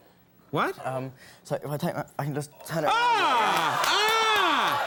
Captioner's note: Conan yells; crowd claps